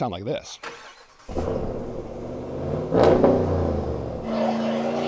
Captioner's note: car engine revving